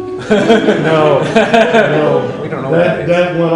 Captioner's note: laughter